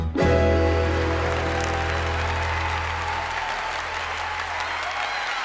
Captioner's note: audience applauding